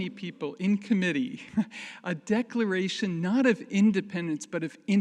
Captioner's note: chuckles